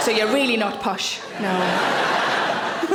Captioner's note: laughs